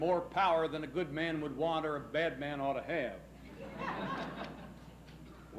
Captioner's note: laughs